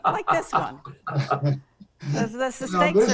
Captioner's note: laugh